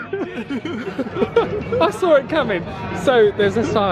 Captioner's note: laughing